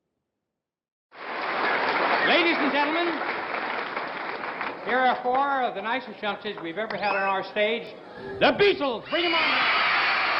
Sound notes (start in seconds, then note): 1.1 crowd cheering; 3.6 applause; 9.0 crowd cheering